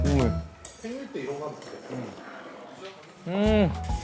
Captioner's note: slurp